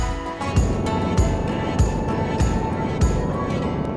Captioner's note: bumpy truck driving; truck engine roaring; wind blowing